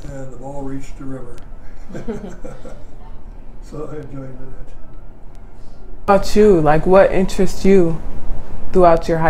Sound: laughing

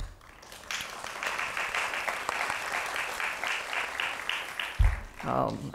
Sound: applause

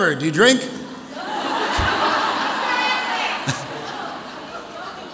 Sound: audience laughs

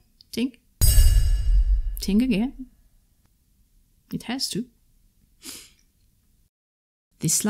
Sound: strong ting

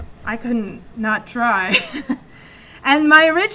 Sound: chuckles

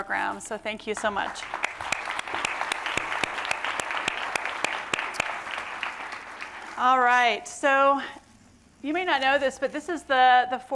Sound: applause

